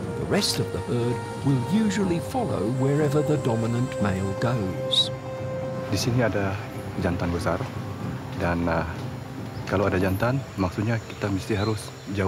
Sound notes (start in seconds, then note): none